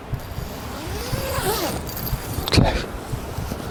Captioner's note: tent unzips